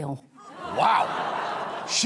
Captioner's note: laughter